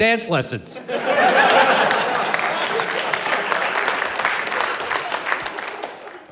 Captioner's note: applause